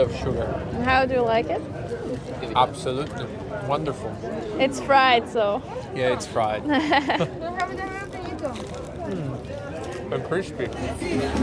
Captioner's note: laugh